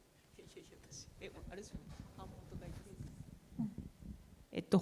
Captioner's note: speaking japanese